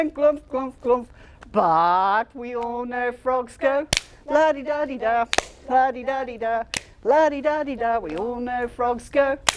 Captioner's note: clap; clap